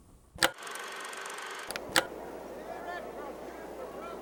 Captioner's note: film reel ticking; film projector clicks; crowd chattering